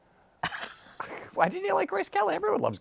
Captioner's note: laughs